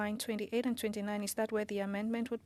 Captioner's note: speaking French